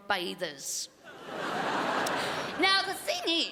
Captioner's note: crowd laughs